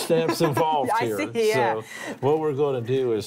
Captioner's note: laughs